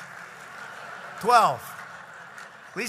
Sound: laughter and applause; laughter

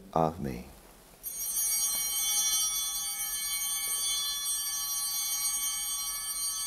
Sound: altar bells ringing

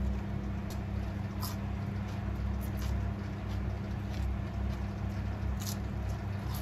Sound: munching

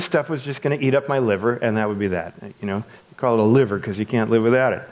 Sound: none

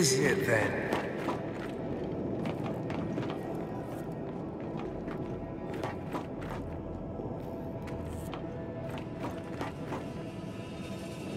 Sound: footsteps

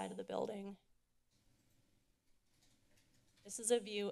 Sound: silence

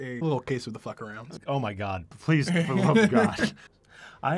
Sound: laughter

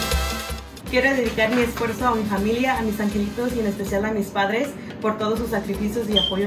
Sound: speaks in foreign language

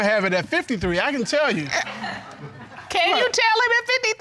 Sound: audience chuckling

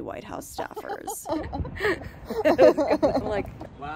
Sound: both laughing

